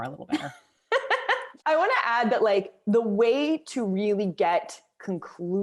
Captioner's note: laughter